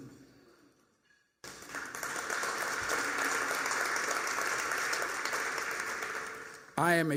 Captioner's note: applause